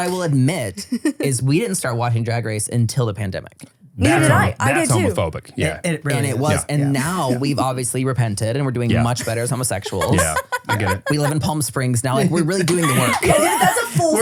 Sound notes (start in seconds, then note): 8.9 laughs